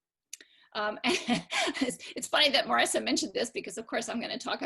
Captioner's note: laughter